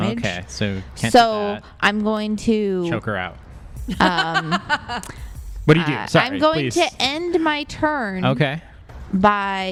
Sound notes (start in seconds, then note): 3.8 laughs